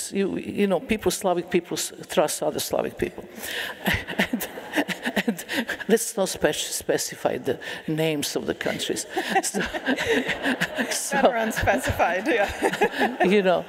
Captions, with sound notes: You know, people, Slavic people, trust other Slavic people. [LAUGHTER] Let's not specify the names of the countries. [LAUGHTER] That's not specified. You know.